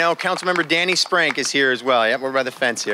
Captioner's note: applause